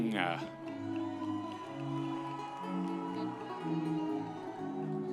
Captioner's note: audience members cheering